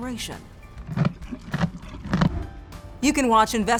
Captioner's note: mule chewing